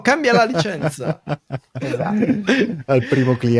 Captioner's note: laughing